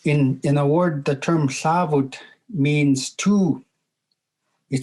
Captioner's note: speaking in Native language